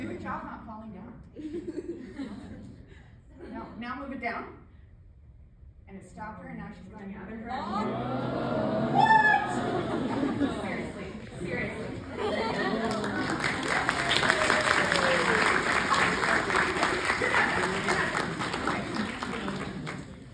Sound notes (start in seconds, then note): 12.4 applause